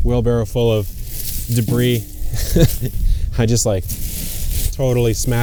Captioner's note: laughs